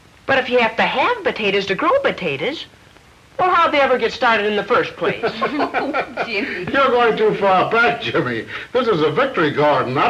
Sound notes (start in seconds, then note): 5.0 laughing